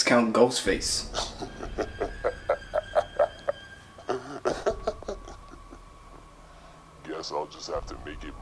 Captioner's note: sinister laugh